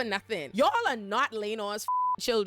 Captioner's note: beep